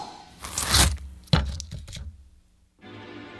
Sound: slicing sound

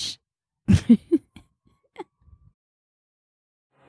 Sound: laughing

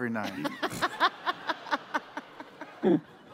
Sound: laughter

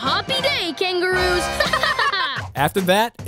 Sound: laughing

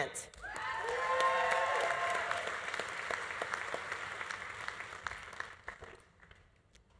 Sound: audience applauding; audience cheering

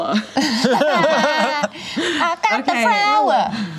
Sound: laughter

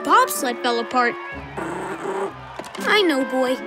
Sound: growling

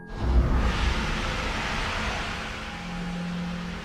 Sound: static

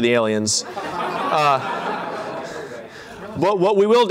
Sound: laughter

